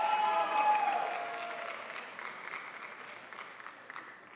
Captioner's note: crowd applauds